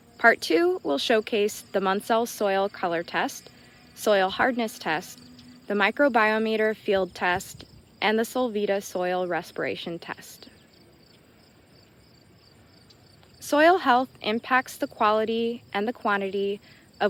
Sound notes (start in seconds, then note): 10.8 insects chittering